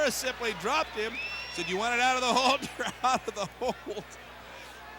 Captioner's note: laugh